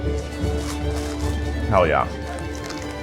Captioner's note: uplifting music; teeth crunching